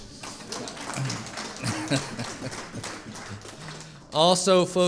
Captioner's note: audience applauding